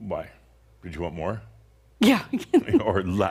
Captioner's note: she chuckles; Adamus chuckles